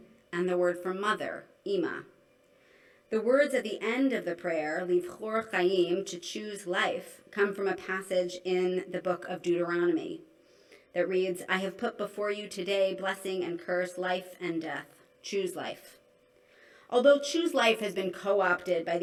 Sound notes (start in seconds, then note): 4.9 non-english